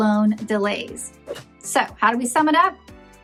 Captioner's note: whooshes; bright, bouncy music